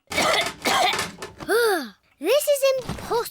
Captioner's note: coughs